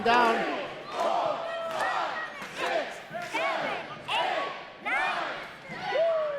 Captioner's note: crowd